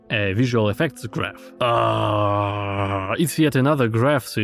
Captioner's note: sounds of pain anticipation